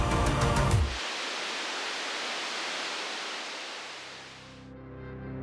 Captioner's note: static crackles